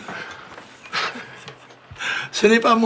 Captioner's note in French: rires